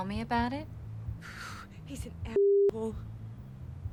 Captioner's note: exhales